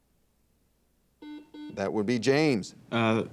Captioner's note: buzzer dings